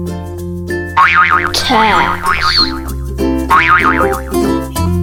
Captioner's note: springing sounds